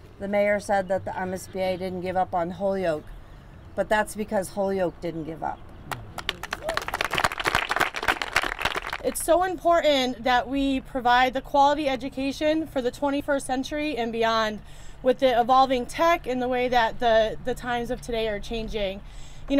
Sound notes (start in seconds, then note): 5.9 crowd applauding